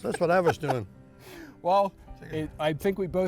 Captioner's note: laughs